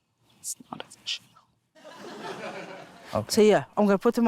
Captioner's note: laughter